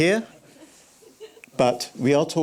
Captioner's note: chuckles